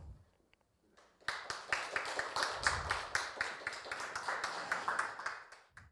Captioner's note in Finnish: Aplodit